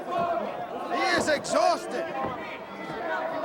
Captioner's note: crowd chatter